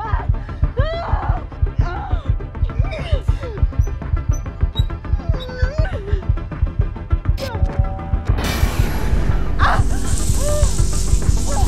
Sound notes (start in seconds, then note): 0.0 heart pounding; 3.7 metal squeaking; 9.7 lights buzzing